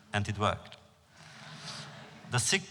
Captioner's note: laughter